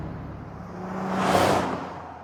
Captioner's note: whoosh